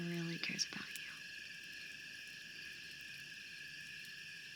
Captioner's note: crickets Chirping Continues